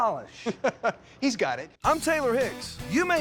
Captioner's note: chuckling